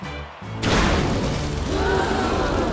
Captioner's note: crowd gasps